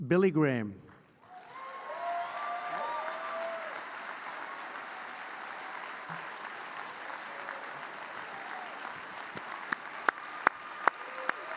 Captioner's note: applause